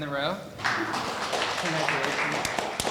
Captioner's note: audience applauding